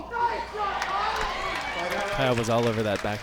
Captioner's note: crowd cheers